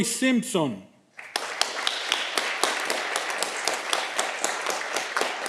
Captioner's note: audience clapping